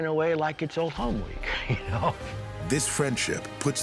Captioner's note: laughs